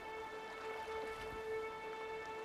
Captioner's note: rod whirrs